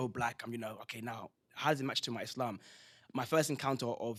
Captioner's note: non-english